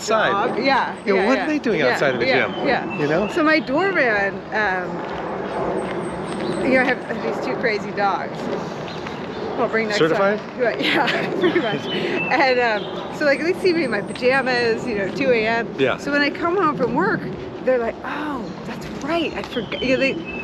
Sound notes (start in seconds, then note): 10.7 Nicole chuckles